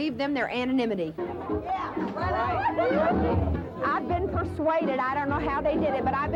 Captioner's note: chatter in a bar